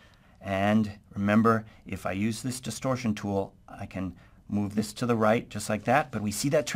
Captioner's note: distortion